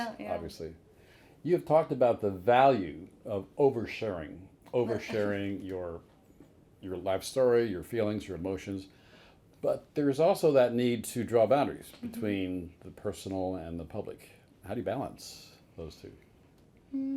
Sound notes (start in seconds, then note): 4.8 chuckling